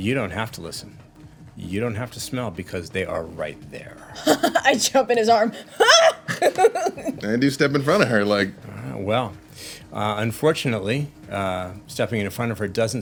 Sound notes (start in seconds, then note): 5.4 laughs; 5.7 shouts